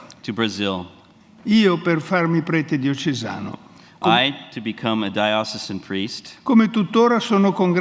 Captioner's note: speaks in Italian